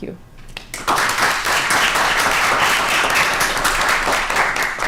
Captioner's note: applause